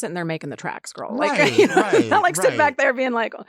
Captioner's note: laughs